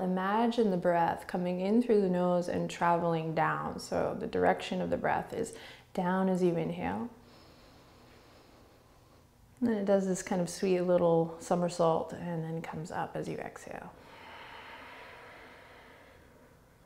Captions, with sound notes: imagine the breath coming in through the nose and travelling down. So the direction of the breath is down as you inhale, (inhaling) and then it does this kind of sweet little somersault and then comes up as you exhale. (exhaling)